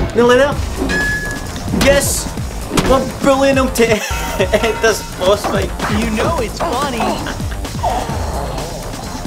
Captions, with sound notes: Nearly there! Yes! We're bullying him to end this boss fight! [ LAUGHS ]